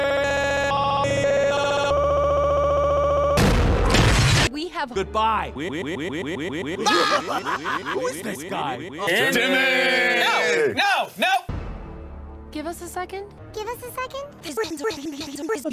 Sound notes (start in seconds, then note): 5.5 laughing; 13.9 pitched up